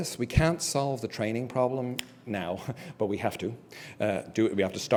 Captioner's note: laugh